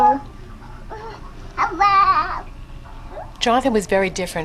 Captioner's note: baby gibbering